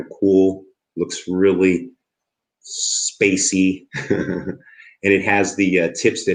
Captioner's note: chuckles